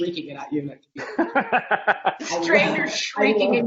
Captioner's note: laughing